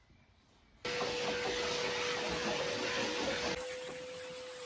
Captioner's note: vacuuming